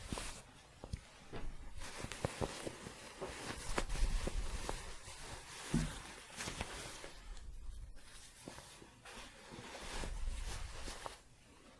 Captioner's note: shuffling